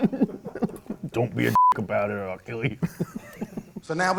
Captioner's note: beep